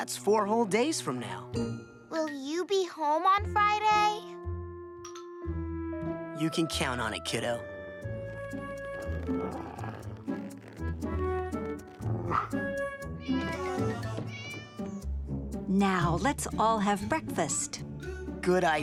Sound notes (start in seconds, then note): 10.9 growling; 13.1 meowing